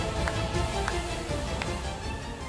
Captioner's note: clapping